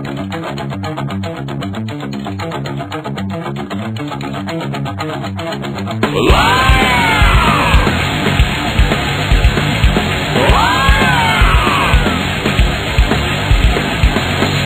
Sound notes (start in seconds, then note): 5.8 inhuman screeching